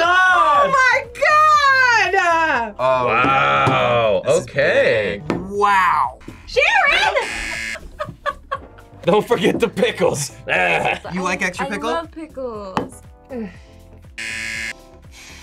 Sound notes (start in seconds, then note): 6.6 laughs; 7.2 buzzer; 14.2 buzzer